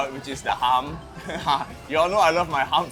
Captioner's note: laughing